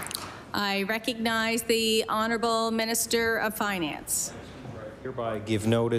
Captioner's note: applause